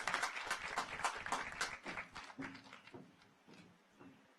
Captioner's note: audience applauds